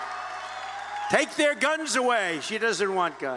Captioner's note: cheers